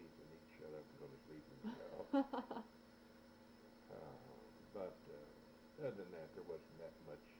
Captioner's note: laughs